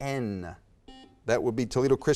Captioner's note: buzzer beeps